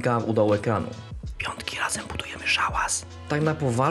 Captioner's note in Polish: szept